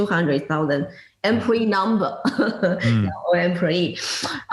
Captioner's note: laugh